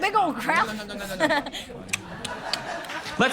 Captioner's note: mimics eating corn on the cobb